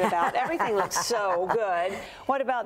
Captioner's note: laughs